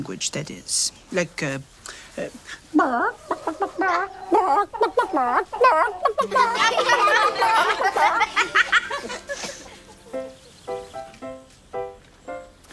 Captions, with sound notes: But they do talk to each other... ...in chicken language, that is. Like uh... (clucks like chicken) (laughter)